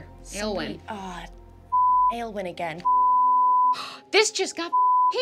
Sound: beep

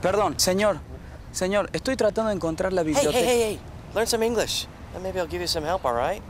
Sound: Spanish

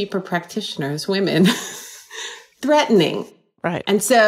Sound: laughing

